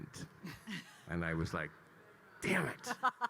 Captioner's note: laughing